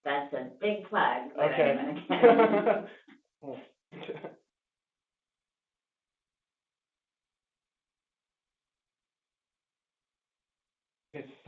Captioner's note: laugh